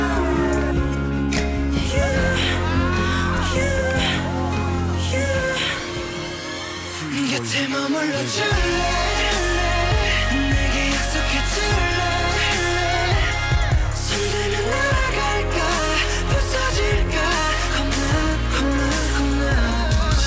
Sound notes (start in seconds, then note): 2.4 shouts